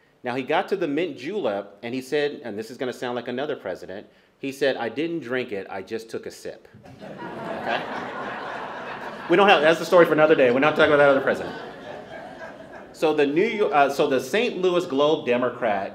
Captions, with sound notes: Now he got to the Mint Julep and he said, and this is going to sound like another president. He said, “I didn't drink it. I just took a sip.” [laughter] We don’t have- that's a story for another day. We're not talking about another president. So the New York- so the Saint Louis Globe Democrat